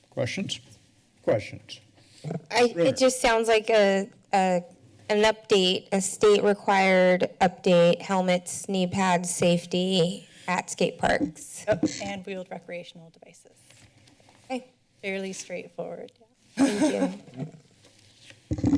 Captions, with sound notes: Questions? Questions? Brunner. - Uh, it just sounds like a- a-, an update, a state required update, helmets, knee pads, safety at skateparks. - Yep, and recreational devices. - Okay. Fairly straightforward. [laughter] - Thank you.